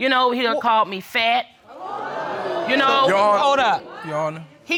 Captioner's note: crowd crinjes